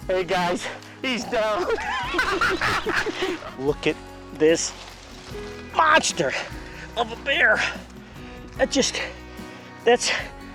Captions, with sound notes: Hey, guys, he's down. (group laughs) Look at this monster (grunts) of a bear